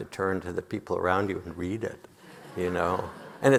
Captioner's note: audience laughing